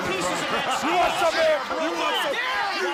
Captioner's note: crowd chatter